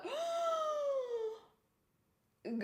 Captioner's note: shocked gasp